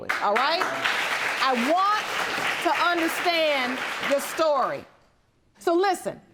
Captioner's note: audience clapping